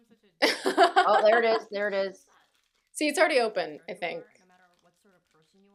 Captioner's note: laughter